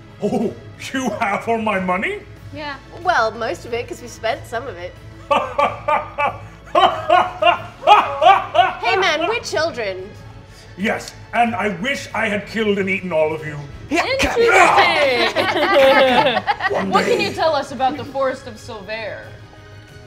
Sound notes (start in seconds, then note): 5.2 laughing; 14.0 all laughing; 14.2 grunting